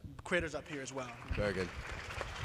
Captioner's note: applause